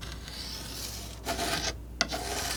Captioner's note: scratching